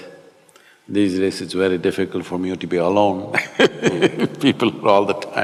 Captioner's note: laughs